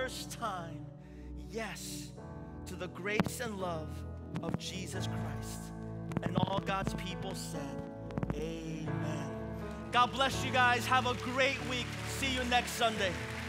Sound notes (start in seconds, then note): 9.8 congregation clapping